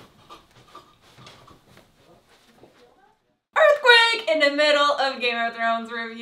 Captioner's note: laugh